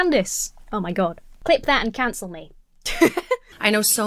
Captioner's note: laughs